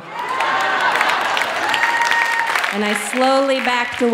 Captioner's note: audience laughing